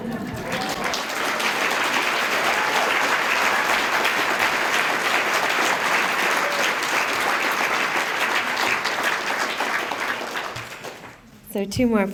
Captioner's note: applause